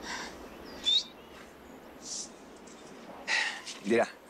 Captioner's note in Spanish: Silbido